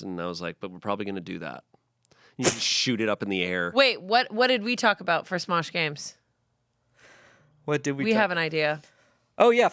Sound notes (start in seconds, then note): 2.2 laughs